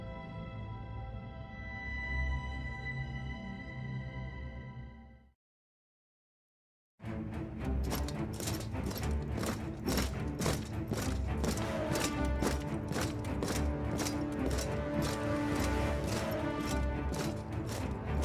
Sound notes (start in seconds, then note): 7.1 dramatic orchestral music; 7.7 steps thudding